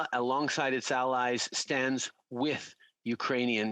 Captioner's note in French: voix de l'interprète